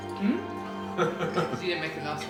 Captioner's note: laughs